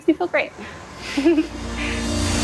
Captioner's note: giggle